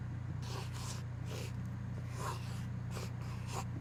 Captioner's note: pencil scratches